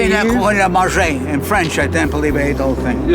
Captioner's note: speaking French